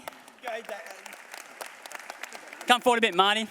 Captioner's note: applause